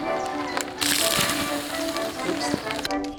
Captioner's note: splat; hiss